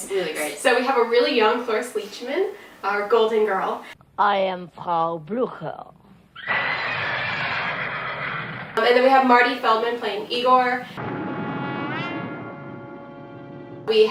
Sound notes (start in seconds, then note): 6.3 horses whinnying